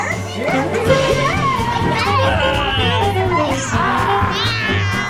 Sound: growling playfully

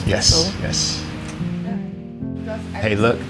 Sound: people chattering

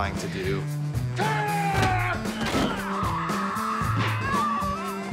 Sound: yelling

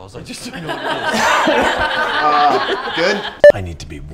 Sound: laughing; raucous Laughter

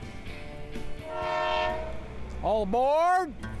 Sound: train horn blowing

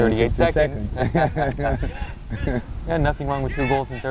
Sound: laugh

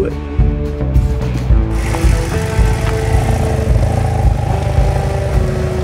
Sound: motorcycles revving

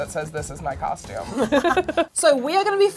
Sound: laughing

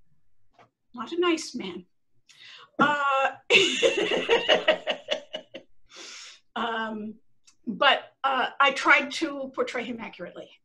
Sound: laughter

